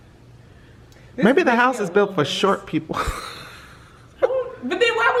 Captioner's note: laughs